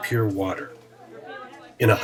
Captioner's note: chatter